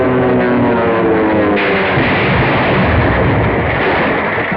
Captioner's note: explosion; dramatic music